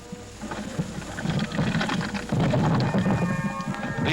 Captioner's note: flames crackling